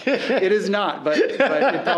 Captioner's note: laughing